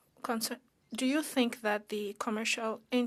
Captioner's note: speaking French